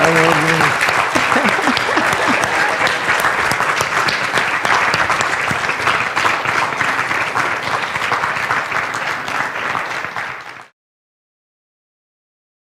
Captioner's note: laughter and applause